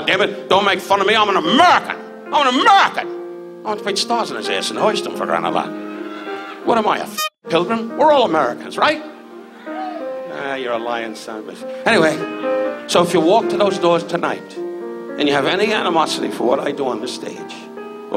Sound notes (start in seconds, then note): 9.7 audience cheers